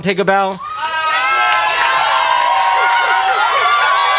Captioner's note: crowd cheering